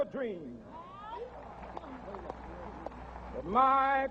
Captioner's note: audience applauding